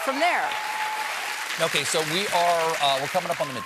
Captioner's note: applause